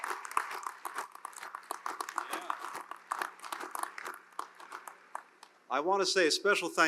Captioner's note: applause